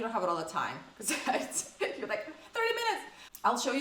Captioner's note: laughs